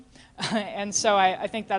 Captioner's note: laughter